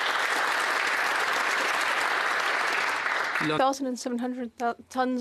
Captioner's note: applause